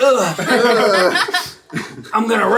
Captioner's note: all laugh